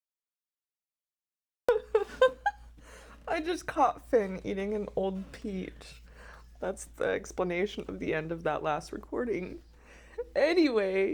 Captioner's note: laughing